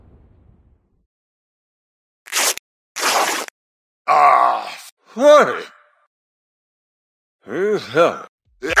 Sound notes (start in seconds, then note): 2.9 riiiiiiiiip